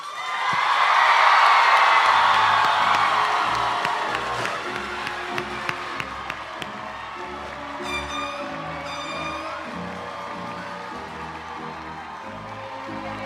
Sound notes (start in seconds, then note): 0.3 audience cheering and applauding; 2.5 bright orchestral music; 7.5 party horn blaring